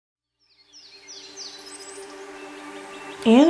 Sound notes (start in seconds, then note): 0.4 birds chirping; 0.4 soft music playing